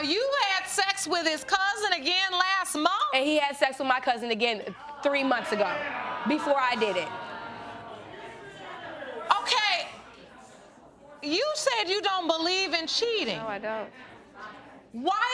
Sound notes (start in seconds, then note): 7.5 audience exclaiming